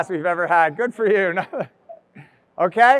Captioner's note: laughs